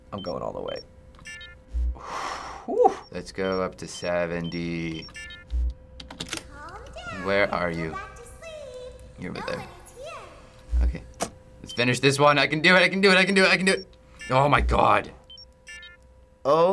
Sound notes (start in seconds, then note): 2.0 sighs in relief; 15.1 beeping